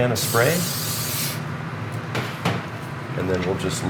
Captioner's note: hissing